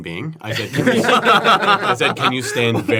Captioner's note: laughter